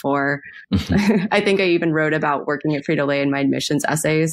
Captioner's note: both laugh